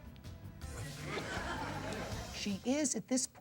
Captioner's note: audience laughs